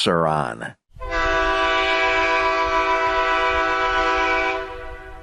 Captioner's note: horn blasts